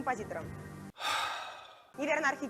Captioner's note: sighs